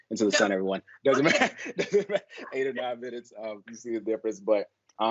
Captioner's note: all laughing